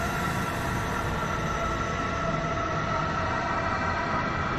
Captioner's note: none